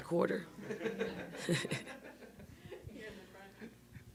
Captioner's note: people laughing